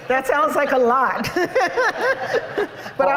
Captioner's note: laughter